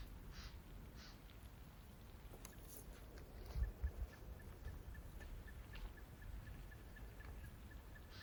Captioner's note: birds chirping